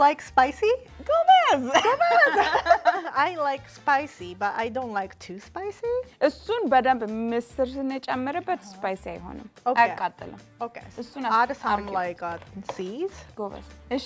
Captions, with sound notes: - Do you like spicy? - (speaking Amharic) - I like spicy, but I don't like too spicy. - (speaking Amharic) - Okay. - (speaking Amharic)